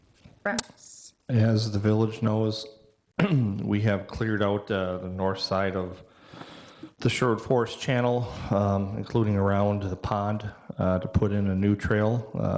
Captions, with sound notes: Rex. And as the village knows (clearing voice), we have cleared out the North side of the Sherwood forest channel, including around the pond to put in a new trail,